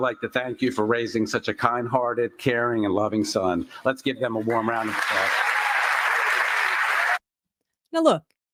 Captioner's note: applause